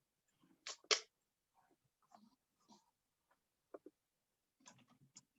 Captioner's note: keyboard keys clicking